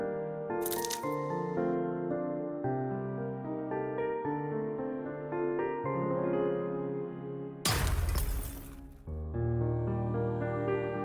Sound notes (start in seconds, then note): 0.3 cracking sound; 7.6 thud